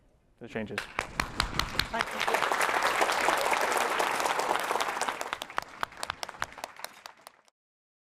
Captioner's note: applause